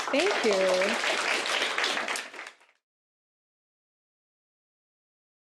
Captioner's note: applause